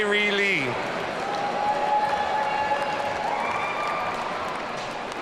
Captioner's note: audience cheering